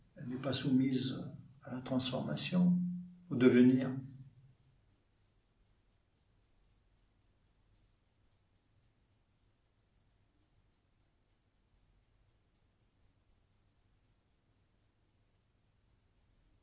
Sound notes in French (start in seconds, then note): 7.3 silence